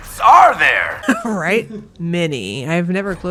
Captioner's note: laughing